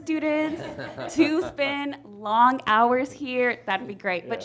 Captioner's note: all chuckle